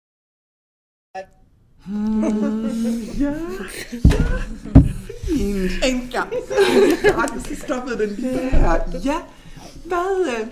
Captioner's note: all laughing